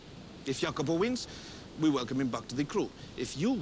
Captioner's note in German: none